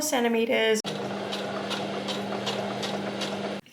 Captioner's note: sewing machine very slowly chugs along